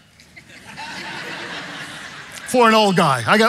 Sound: congregation laughing

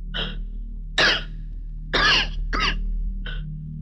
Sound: coughs

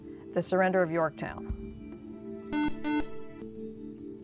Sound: buzzer

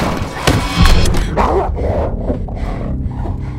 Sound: muffled growling

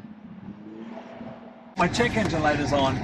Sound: car engine revving

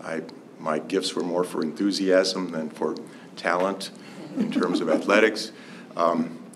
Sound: laughter

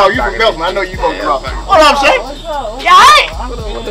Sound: both laughing

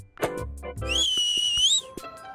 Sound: whistles

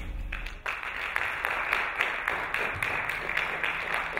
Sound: applauding

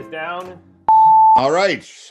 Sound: loud beep noise

